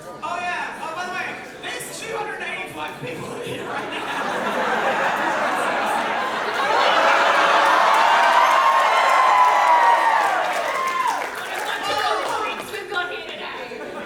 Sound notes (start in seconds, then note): 4.3 audience reaction noises and cheers